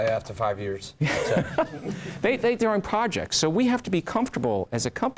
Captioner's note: laugh